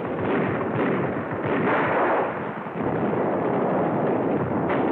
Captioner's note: gunfire